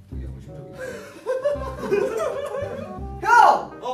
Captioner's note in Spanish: risa nerviosa